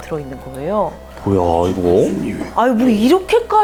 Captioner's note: murmuring